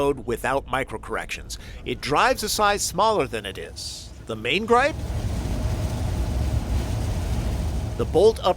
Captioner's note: wind noise